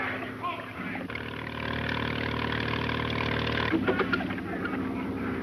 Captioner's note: speedboat engine revving; group chattering